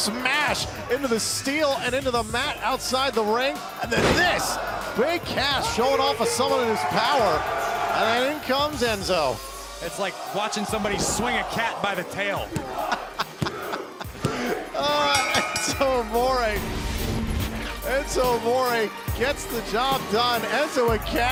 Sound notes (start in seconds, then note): 12.7 laughter; 14.9 bell ringing